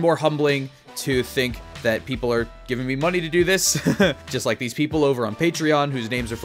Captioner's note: laughs